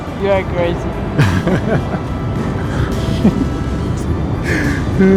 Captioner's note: laughs